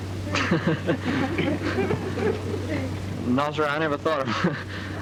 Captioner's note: laughing